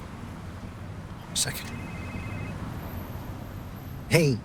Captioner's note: phone ringing